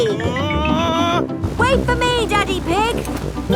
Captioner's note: screaming